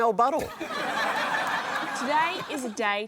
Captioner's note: laughter